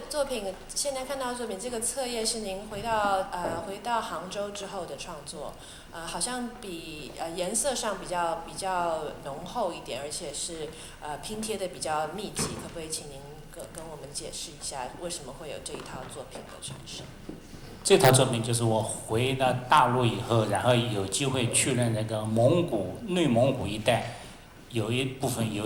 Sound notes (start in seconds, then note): 18.2 Mandarin